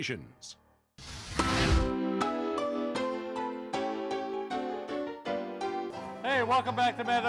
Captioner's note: fire blasts; light upbeat music